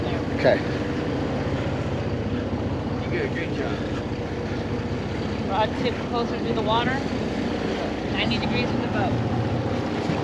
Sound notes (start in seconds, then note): 4.0 boat engine running